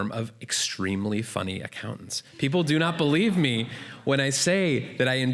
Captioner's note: laughter